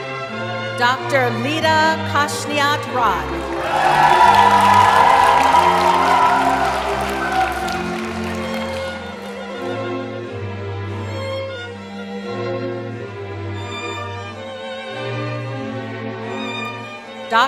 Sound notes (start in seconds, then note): 3.2 cheering; 3.3 applause